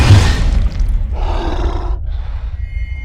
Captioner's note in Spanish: Rugido